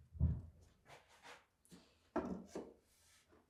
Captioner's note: none